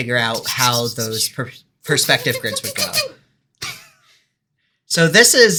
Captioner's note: more pewing ensues